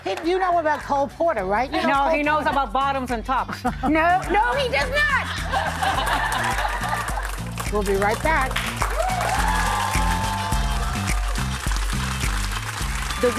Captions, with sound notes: If you know about cole porter, right? He knows about bottoms and tops. No, no, he does not. [LAUGHTER] We'll be right back. [APPLAUSE]